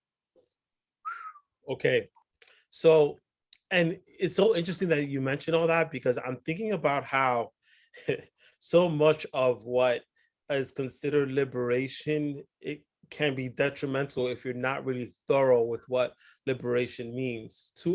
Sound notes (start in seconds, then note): 1.0 whistles